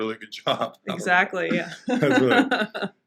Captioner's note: laughing